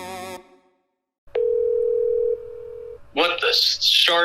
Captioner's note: dial tone